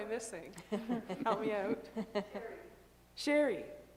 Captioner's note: laughter